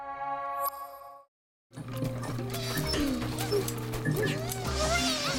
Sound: whirring

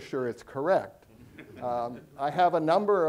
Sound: audience chuckling

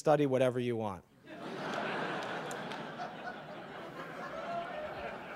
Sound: audience laughing

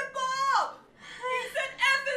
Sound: nervous sigh

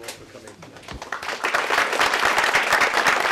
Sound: applause

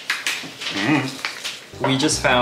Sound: confusedly responds

